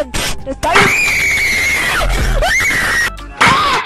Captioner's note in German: screams